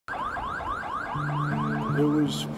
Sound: police siren ringing

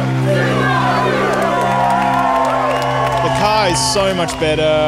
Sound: cheering

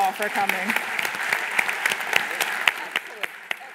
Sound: applause

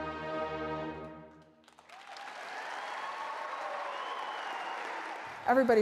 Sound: applause

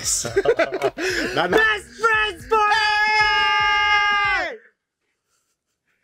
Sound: giggles; shouts

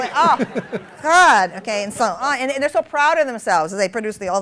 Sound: laughter

